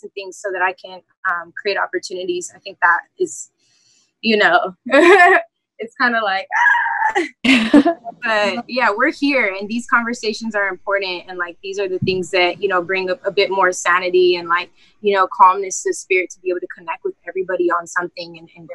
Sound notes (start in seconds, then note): 4.9 laughs; 7.4 laughter